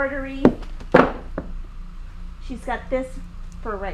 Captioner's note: clanging